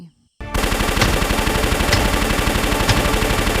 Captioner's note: gunfire